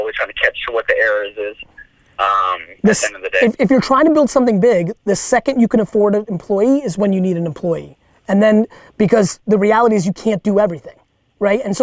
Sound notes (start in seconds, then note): none